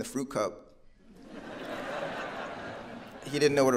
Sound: audience laughing

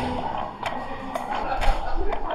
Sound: growl

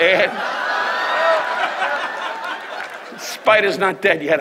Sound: audience laughs

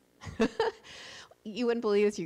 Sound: laughs

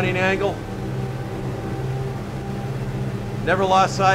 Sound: engine noise

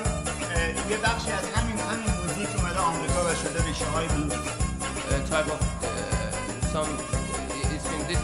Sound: speaking in farsi

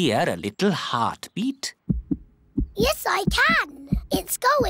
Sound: heart thumps

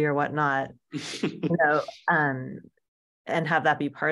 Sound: laughs

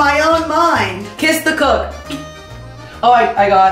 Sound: kiss

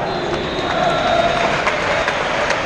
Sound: whistle

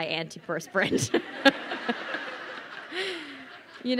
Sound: crowd laughing

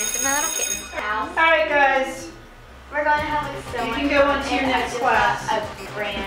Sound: school Bell

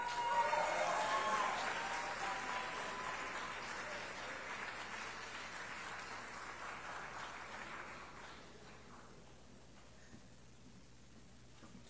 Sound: applause

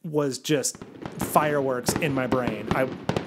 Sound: fireworks bursting

